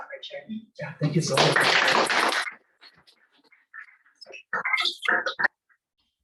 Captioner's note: applause